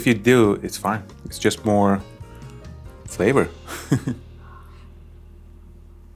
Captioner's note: laughs